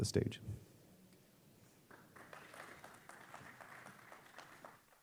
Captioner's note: applause